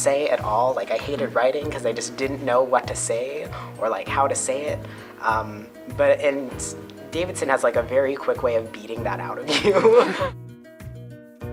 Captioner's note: laughter